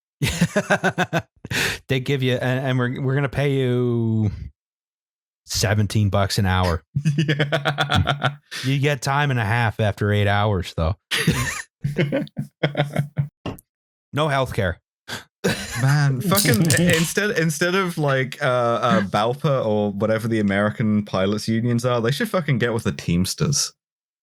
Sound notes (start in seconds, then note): 0.8 laughing; 7.4 laughs; 11.1 laughter